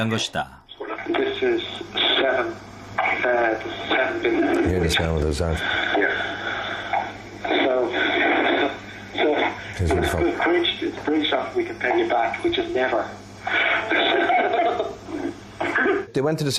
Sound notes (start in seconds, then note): 14.0 both laugh hearily